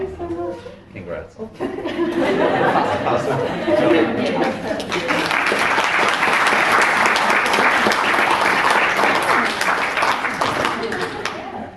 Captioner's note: audience laughs